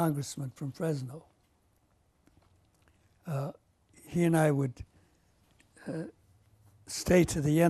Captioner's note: pauses for 3 seconds